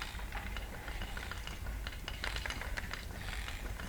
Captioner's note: breathing